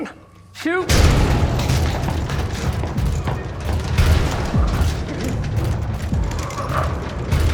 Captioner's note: door rattles; dramatic music; door rattling; growling echoes faintly